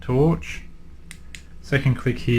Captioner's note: clicks button